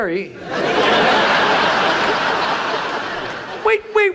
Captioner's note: audience laughs